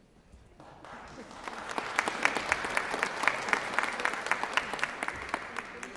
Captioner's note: applause